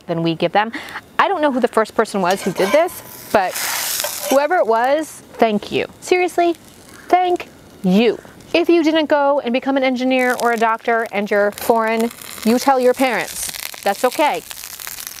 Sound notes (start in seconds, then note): 5.0 tortilla sizzling